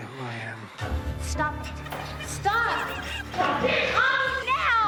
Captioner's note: ghostly voices chattering; tense orchestral music